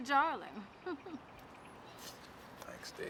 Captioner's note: chuckles